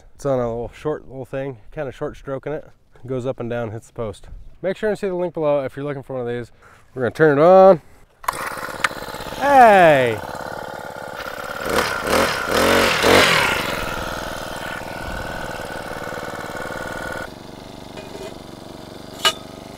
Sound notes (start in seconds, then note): 8.4 machine engine revving; 11.5 machine engine revving